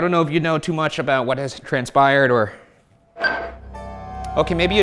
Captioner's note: device beeps